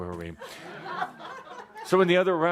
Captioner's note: laughter